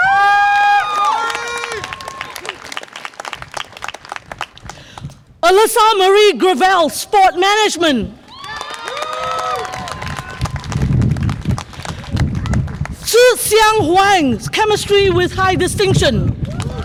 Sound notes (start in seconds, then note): 0.0 audience applause and cheer; 8.2 audience applause and cheer